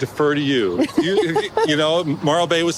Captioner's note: laughs